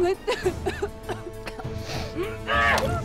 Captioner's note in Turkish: Öksürme sesi